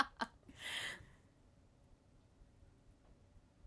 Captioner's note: Vanessa laughing